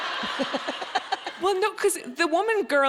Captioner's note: audience laughing